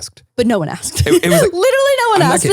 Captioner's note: laughs